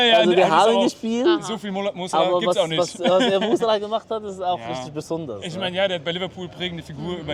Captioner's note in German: gelächter